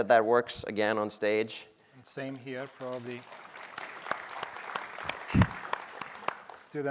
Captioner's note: applause